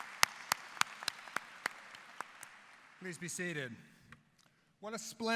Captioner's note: applause